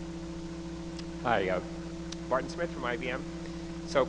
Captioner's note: voiceover